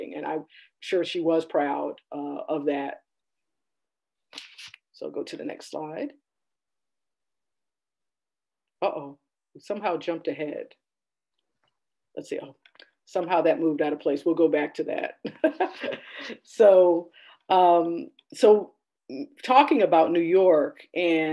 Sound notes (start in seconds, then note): 15.6 laughing